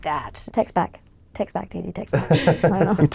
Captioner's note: laughing